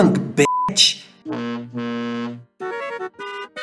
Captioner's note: two honk truck horn; honking turn; 2 3/4 bars of honks, acc in first and go flatter